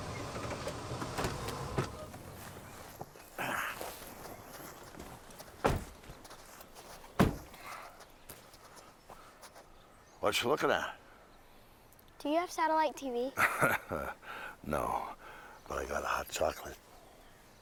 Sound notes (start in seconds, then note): 3.7 Bill grunts; 13.4 chuckles